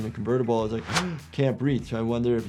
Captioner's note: gasps